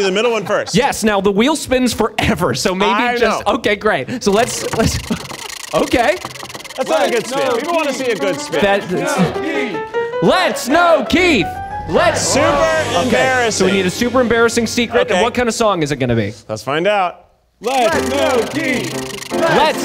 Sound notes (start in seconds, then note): 4.2 wheel spinning